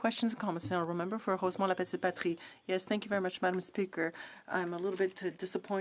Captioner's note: speaking French